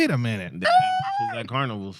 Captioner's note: screams